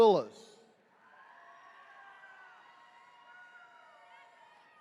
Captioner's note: attendees cheering